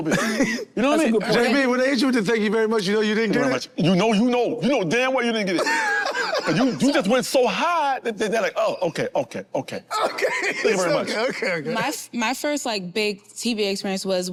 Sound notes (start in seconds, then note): 5.6 laughs